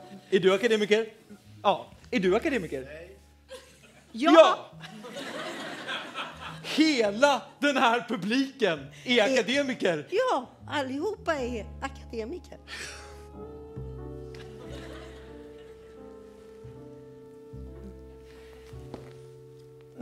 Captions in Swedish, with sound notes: Är du akademiker? Ja. Är du akademiker? — Nej. (Svar från man i publiken) — Ja! (skratt) — Hela den här publiken är akademiker. — Ja, allihop är akademiker.